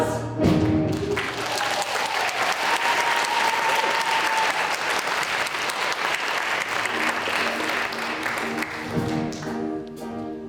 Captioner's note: applause